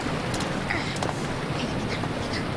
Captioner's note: gasping